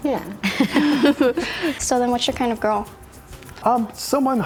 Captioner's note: laughs